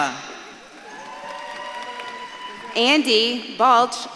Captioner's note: audience claps and cheers